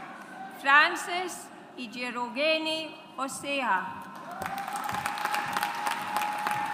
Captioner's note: audience applauds